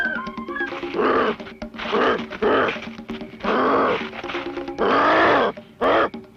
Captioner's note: grunting